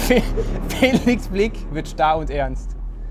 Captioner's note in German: Dröhnen